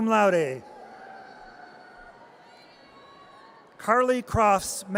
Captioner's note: audience cheers